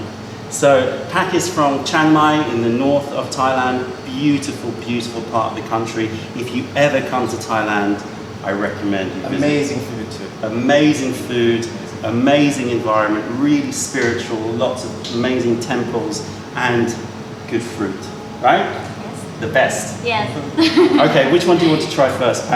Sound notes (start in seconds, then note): 20.5 laughter